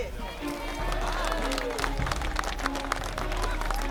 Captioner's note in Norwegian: Applaus